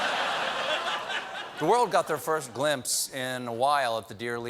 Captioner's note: laughter